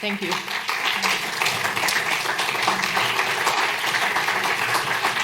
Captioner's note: applause